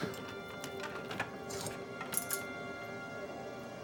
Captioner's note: lock clicks